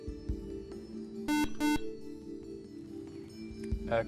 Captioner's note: buzzer